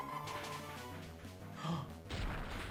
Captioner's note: gasps